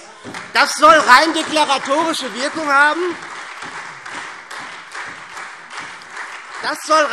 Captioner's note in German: Beifall SPD und Freie Demokraten